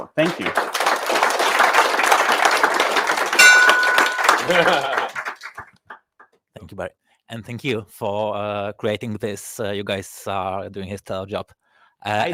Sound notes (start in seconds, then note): 0.0 audience applauding; 3.4 bell ringing